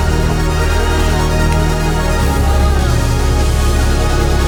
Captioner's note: cheering